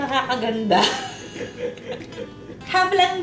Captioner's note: laughs